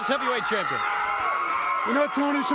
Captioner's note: audience cheering